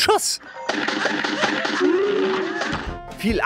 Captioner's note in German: Dumpfe Schussgeräusche